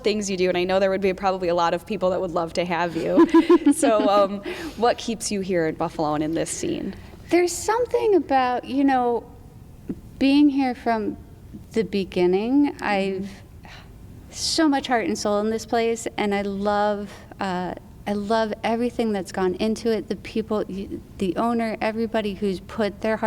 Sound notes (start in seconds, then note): 2.9 laughs